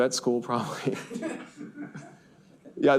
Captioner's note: students laugh